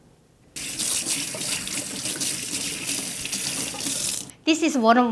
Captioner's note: running water